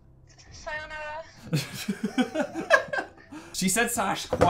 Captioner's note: laugh